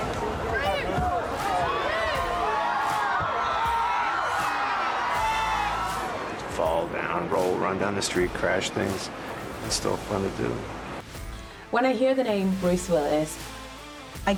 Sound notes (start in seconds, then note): 5.8 audience cheers